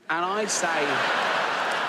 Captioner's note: audience laughs